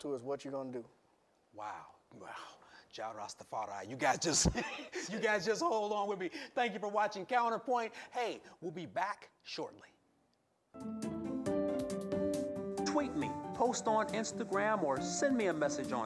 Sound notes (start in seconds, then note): 4.3 chuckles; 10.7 instrumental music